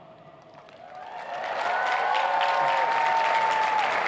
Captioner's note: cheers and applause